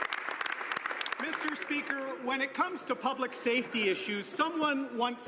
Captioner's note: some Applause